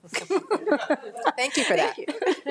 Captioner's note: member laughing